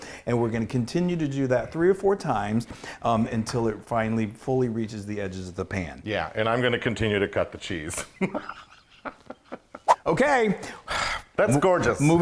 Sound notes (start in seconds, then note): 9.4 laugh